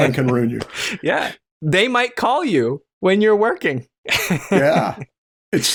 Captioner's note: laughter